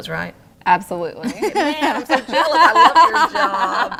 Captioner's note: laughs